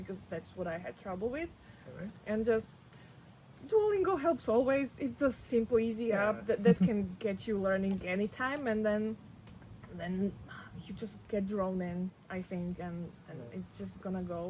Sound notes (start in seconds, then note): 6.5 laughs